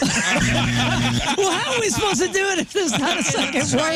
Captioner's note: laughing